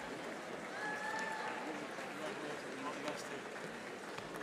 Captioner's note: audience applauding